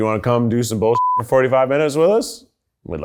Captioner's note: beep